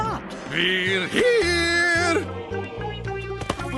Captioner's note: sing-songy